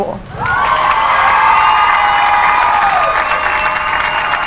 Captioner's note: cheering and applause